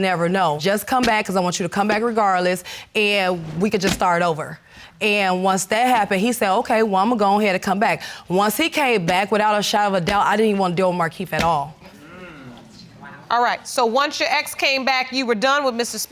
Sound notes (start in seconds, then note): 11.5 audience murmuring